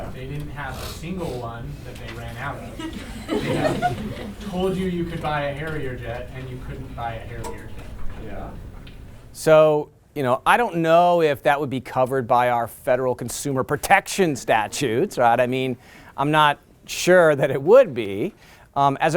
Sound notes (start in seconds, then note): 2.6 laughter